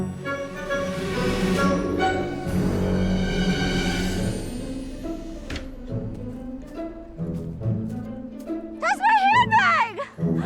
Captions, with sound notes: [window closes] That's my handbag!